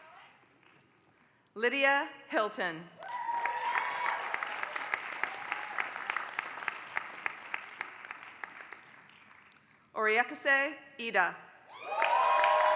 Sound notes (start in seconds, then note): 0.0 applause; 11.8 applause